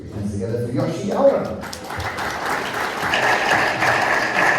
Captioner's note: audience applauds